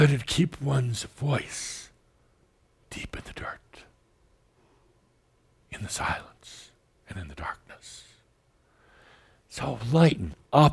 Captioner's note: whispering now